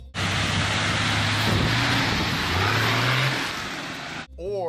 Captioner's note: engine whirring